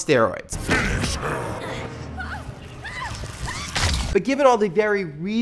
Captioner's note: grunts